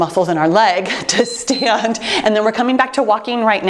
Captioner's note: timer beeps